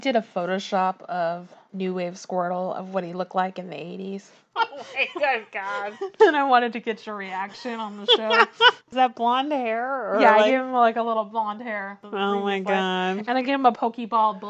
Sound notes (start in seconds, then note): 4.6 laughs